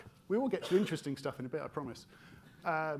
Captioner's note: attendee coughing